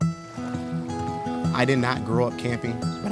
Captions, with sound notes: (soft guitar music) (water rumbling) - I did not grow up camping,